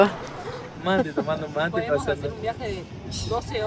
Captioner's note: in Spanish